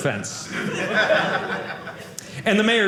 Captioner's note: audience laughing